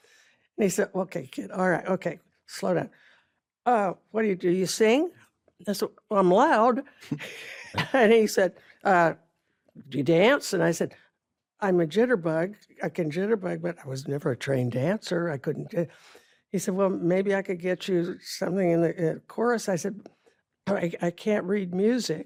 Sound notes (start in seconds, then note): 7.1 chuckles; 7.1 ben chuckles